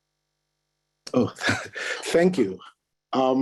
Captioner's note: chuckles